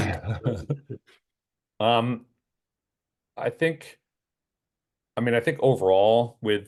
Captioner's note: laugh